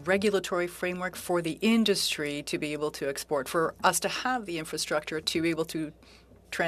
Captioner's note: speaking French